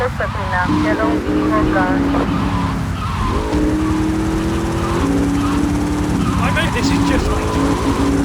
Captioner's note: siren blaring